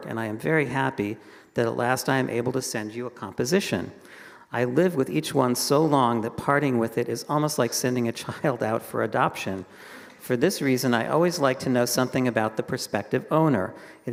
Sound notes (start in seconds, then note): none